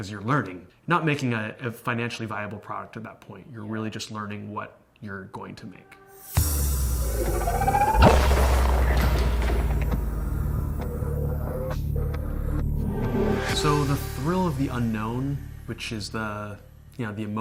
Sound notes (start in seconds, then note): 7.1 gaming sound